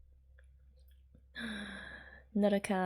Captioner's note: breathes